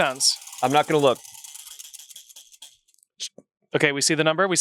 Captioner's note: wheel rattles